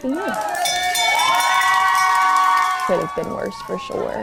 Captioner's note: team cheering; bell ringing